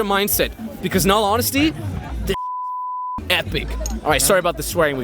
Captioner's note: beep